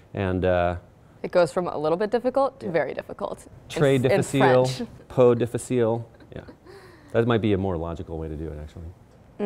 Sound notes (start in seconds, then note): 4.8 speaks foreign language; 6.1 giggles